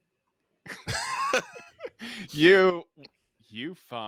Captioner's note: laughs